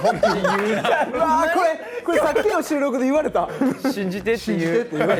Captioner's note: laughs